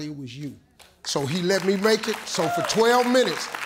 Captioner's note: audience claps